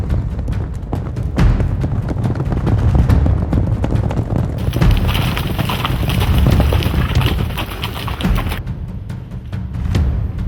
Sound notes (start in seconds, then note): 0.0 hooves thunder; 0.0 suspenseful music